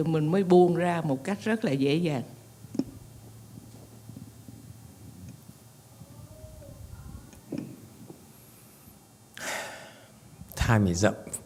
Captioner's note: sighs